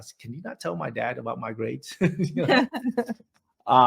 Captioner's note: laughs